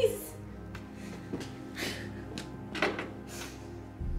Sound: sobbing

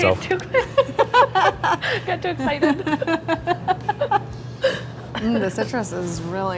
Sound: laughs

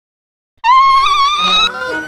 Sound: steam whistles

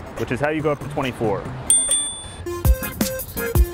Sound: bell rings; energetic music

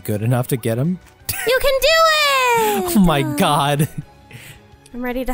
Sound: laughing

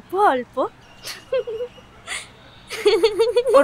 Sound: Jinia laughs

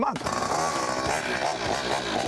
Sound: engine revving

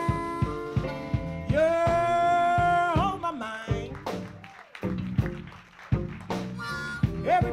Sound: audience claps

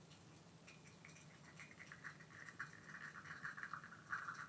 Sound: coffee dripping

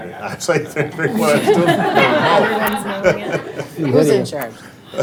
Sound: all laughing

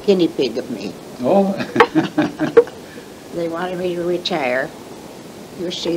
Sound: laughs

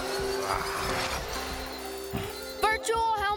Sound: beeping

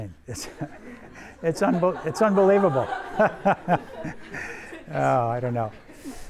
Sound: everyone laughs

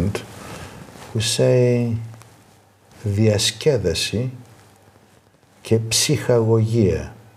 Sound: speaking in foreign language

